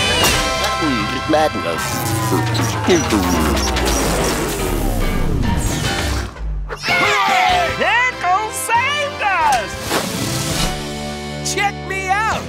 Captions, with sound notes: [Auto-Vac powering down] [cheering] Pickles saved us! Check me out!